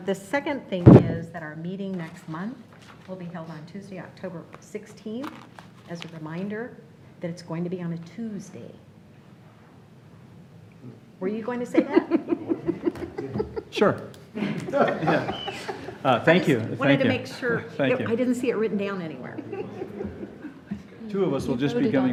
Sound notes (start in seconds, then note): 11.7 laughter